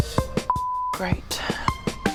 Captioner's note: uncertain music; beep